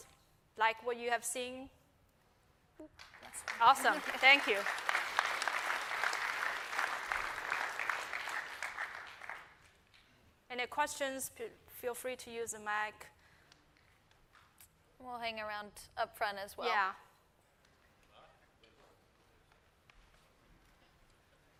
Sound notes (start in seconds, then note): 7.5 applause